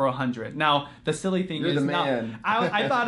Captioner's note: giggling